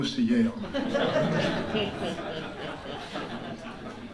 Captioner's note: laughter